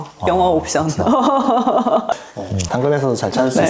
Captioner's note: laughs